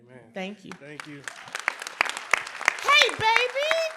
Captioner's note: applause